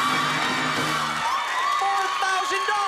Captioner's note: applause and cheering